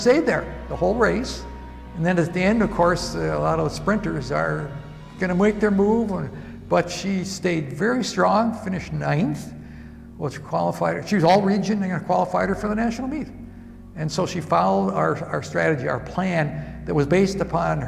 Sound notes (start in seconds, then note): none